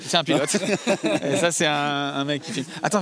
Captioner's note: laughs